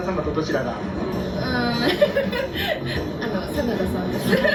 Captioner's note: laughs